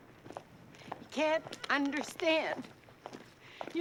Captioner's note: crying